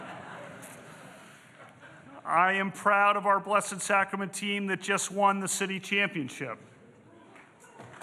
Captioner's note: laughter